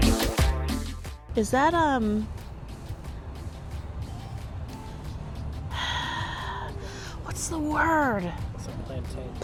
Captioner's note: sighs